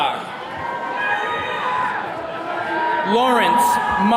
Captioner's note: attendees cheering